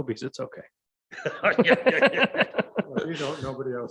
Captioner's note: laughs